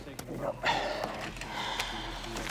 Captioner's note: sighs